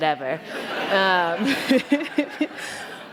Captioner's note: laughter